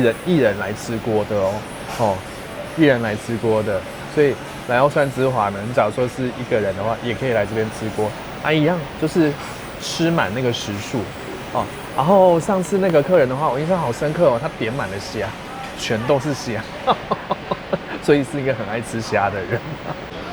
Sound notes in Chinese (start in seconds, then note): 16.6 笑聲